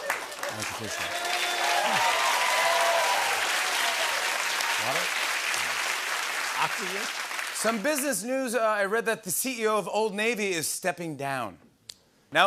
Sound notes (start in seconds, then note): 0.0 cheering and applause